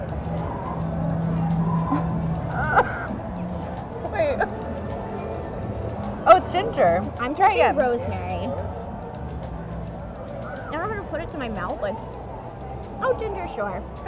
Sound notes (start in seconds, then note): 1.8 laughs; 2.4 groans